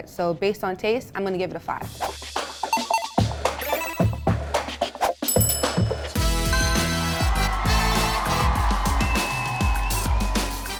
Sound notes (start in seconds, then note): 2.7 digital ping; 4.4 cheering; 4.4 upbeat music